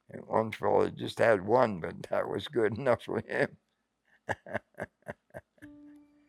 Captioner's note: laughing